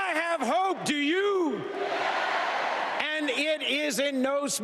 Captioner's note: applause